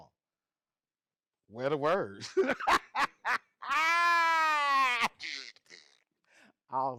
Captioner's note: laughs